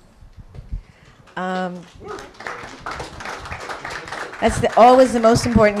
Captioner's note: applause